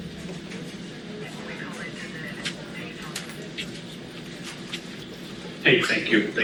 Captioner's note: police station sounds